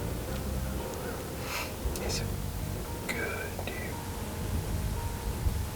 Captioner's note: whispering